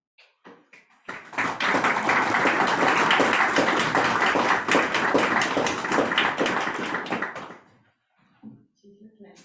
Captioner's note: audience claps